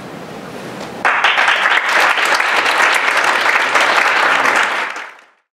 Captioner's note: audience applauding